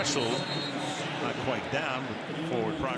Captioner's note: whistle